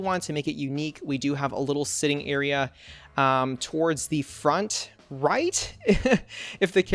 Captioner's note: laughs